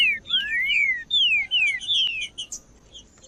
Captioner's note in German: trinca ferro cantando